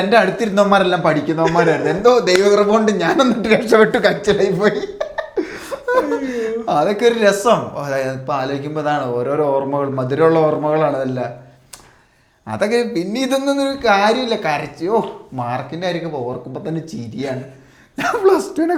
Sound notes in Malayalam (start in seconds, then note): 5.7 പൊട്ടിച്ചിരി